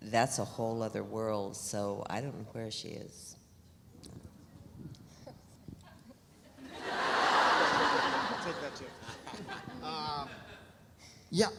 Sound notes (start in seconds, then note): 6.6 audience laughs; 9.4 laughs